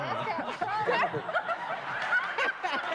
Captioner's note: laughter; applause